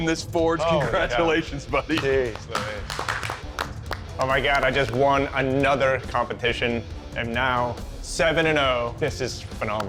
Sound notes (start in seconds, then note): 1.9 applause